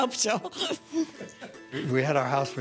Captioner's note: laughing